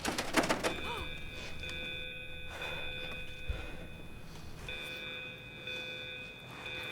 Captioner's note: door handle rattles, footsteps; audible gasps from hidden students